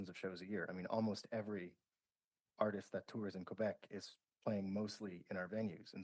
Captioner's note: speaking French